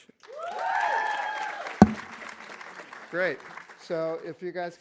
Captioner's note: audience applauding; audience cheering